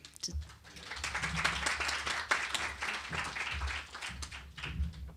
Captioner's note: applause